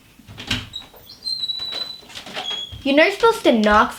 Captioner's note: door opens